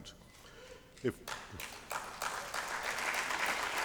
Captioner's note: applause